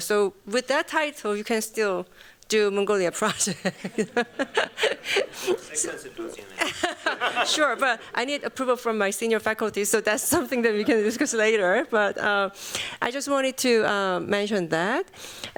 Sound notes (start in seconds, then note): 3.3 chuckles; 6.5 laughs